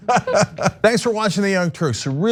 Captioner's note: laugh